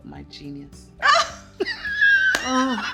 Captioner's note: laughs